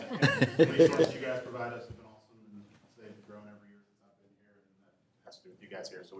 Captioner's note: board member faintly speaking